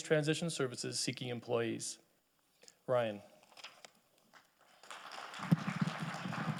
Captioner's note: audience applauding